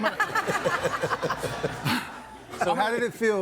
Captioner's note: audience laughing